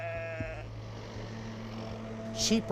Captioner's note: sheep baaing; tractor rumbling